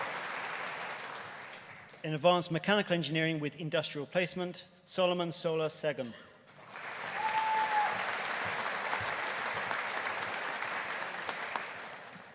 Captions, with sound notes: In Advanced Mechanical Engineering with Industrial Placement Solomon Sola Segun. (AUDIENCE APPLAUDING) (AUDIENCE CHEERING)